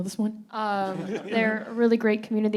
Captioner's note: panelists and audience laughing